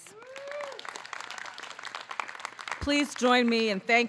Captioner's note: audience clapping